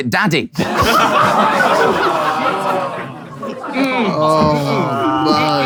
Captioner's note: people in room laughing and groaning